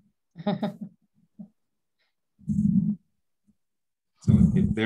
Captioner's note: laughs